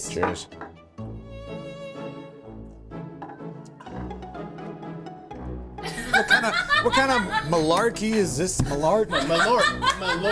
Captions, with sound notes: Cheers. (upbeat music) (laughing) - What kind of malarkey is this? - Malort...